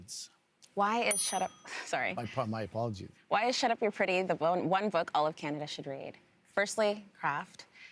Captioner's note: bell rings